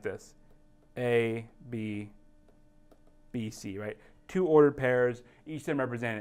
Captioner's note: pen tapping sound